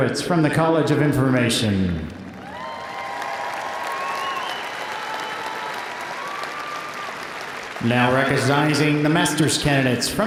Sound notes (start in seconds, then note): 2.2 audience applauding; 2.2 audience cheering